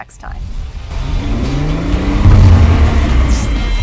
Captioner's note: engine revving